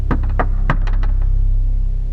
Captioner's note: knocking